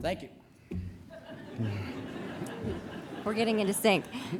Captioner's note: laughter